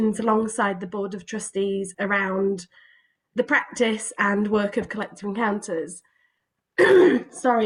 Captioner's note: coughs